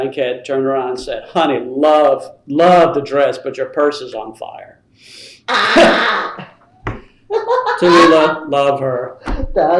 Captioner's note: laughter